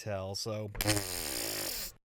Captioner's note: deflated raspberry sounds